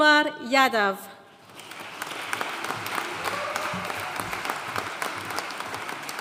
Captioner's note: audience cheering and applauding